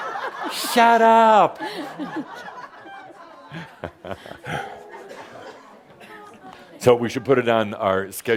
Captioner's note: laughter